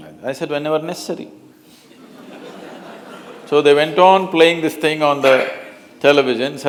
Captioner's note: laughter